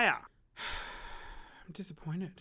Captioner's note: sighs